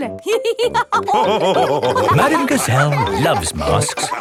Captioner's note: all laughing